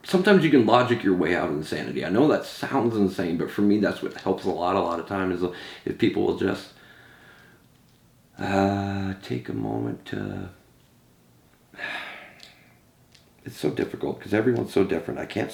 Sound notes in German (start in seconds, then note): 11.7 seufzt